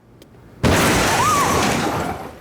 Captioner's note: screaming